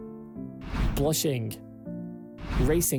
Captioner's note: screen swishes; screen swishes